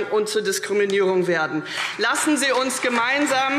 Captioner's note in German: Beifall CDU und vereinzelt BÜNDNIS 90/DIE GRÜNEN